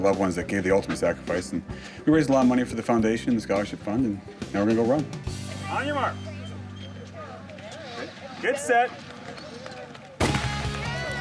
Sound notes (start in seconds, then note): 10.2 gunshot